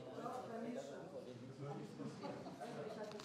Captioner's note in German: allgemeines Gemurmel im Publikum